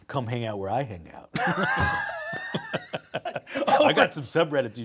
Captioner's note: both laughing